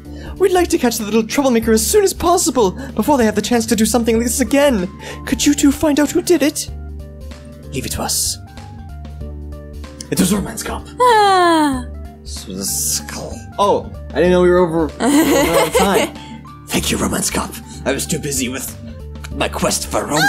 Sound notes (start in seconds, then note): 10.1 whispers; 15.1 laughs